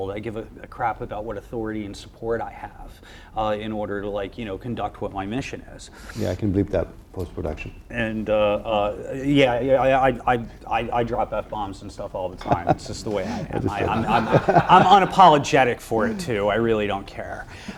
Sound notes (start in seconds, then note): 14.0 audience laughs